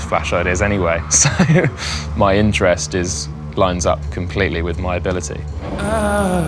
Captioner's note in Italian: risata